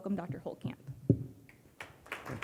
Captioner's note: audience clapping loudly